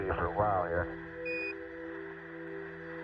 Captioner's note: beep